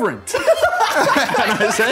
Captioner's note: laughing